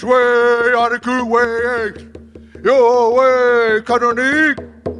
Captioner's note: speaking in a foreign language